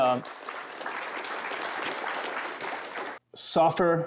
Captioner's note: applause